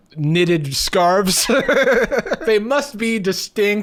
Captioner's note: laughing